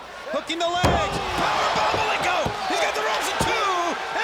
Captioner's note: crowd cheering; commentators vocalizing